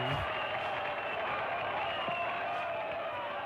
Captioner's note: whistle sounds